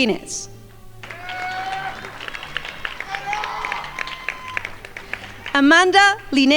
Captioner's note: crowd yelling and applauding